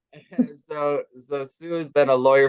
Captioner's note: chuckles